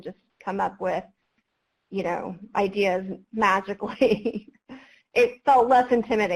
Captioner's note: laughs